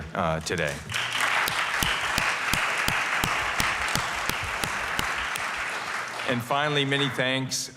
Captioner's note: applause